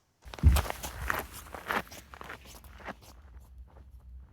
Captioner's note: wind blowing